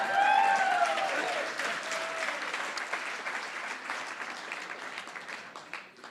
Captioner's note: cheering & Applause